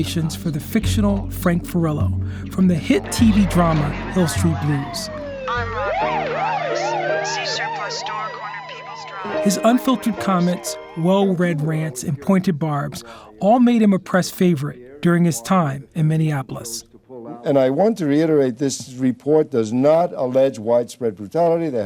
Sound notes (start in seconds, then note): 6.3 sirens wailing; 6.7 radio chattering